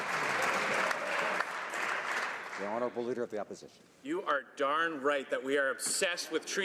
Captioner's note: some Applause